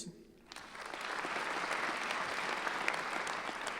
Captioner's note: clapping